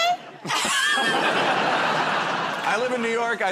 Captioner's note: laughter